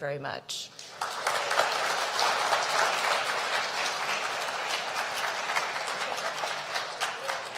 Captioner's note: applause